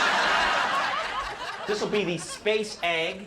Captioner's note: audience laughing